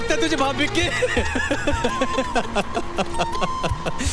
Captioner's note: Laughs